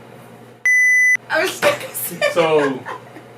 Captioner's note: laugh